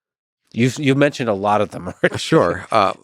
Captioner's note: laughs